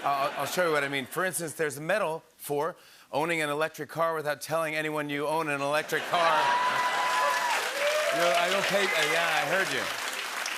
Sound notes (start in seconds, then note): 6.0 laughter, cheering, and applause